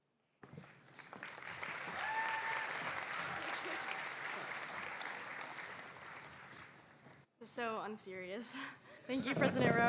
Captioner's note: applause